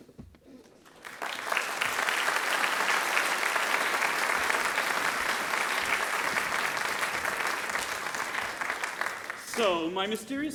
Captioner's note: applause